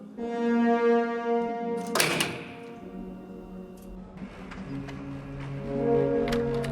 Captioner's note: dramatic horn music; elevator slams; ominous electronic music